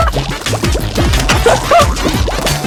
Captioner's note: laughs to myself